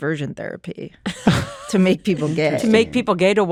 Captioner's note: laughter